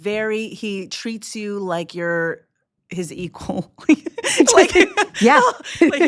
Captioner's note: laughs